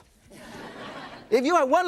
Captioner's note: audience laughs